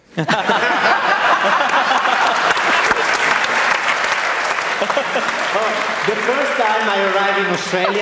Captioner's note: laughter and Applause